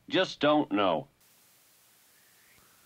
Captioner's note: wind blowing